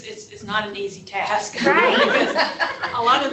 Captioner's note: laughter